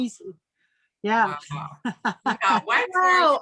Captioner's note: laughing